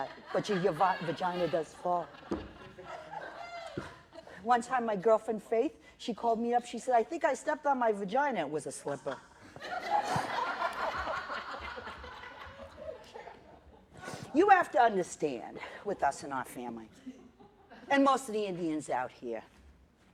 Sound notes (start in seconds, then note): 9.0 laughter